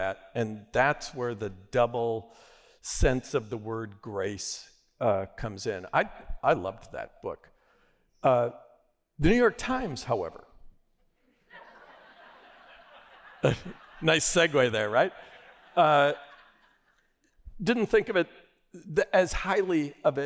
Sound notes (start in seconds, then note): 11.4 laughter